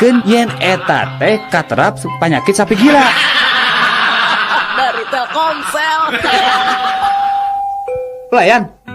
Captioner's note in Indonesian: tertawa